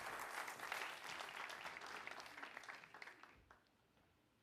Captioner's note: applause